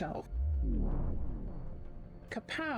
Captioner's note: vwoom